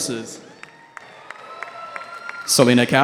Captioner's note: cheering